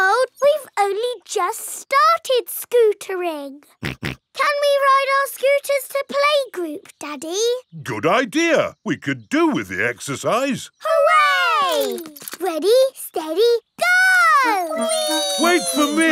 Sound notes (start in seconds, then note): 3.8 snorts